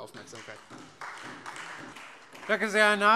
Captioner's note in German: Beifall Freie Demokraten und vereinzelt SPD